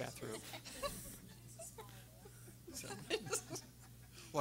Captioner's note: audience laughing